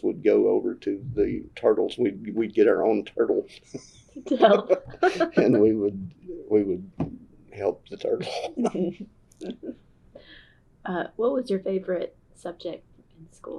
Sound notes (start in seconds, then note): 8.3 laughter